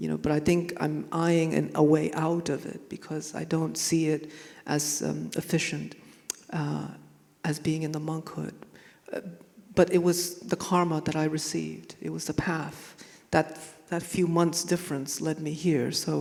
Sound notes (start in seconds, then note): none